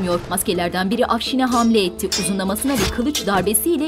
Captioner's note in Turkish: Müzik - Gerilim; Kılıç sesleri